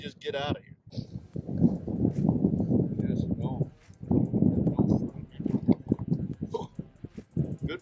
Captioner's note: wind rumbles